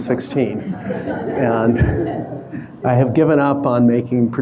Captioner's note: audience laughing